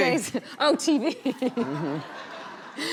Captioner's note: laughing; laughs